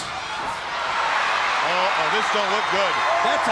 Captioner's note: crowd cheering